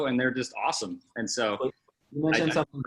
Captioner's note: murmurs